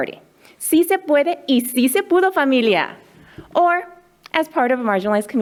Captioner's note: speaking in foreign language